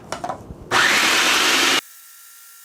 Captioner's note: mixer sounds